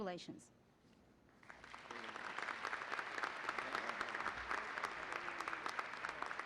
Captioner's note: applause